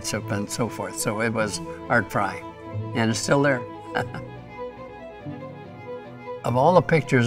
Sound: laughs

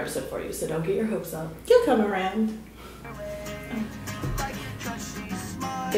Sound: Leah's ringtone plays

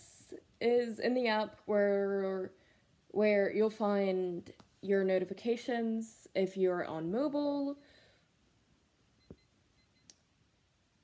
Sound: phone beeping

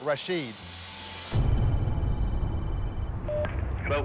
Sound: phone rings

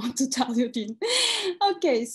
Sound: gasps

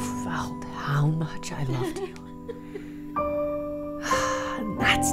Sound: sobbing

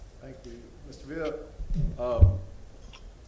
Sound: ~distortion~

